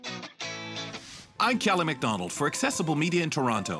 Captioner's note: voiceover